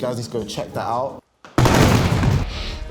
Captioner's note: shoes hitting the floor; sniffing